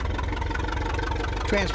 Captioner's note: engine chugging